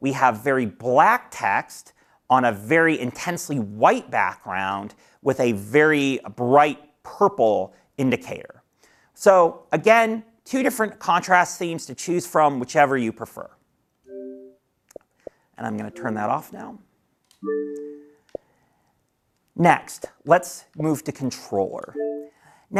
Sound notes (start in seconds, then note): 14.0 soft beep; 17.4 high beep